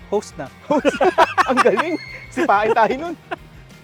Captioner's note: laughs